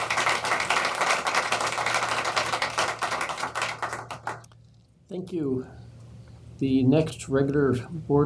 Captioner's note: applause